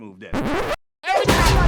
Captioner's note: record scratch